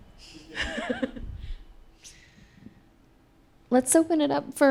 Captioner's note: audience laughing